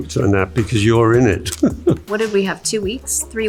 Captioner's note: chuckles